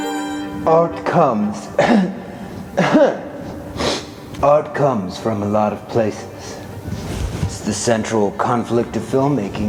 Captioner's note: cough